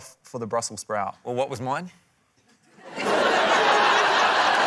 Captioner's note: laughter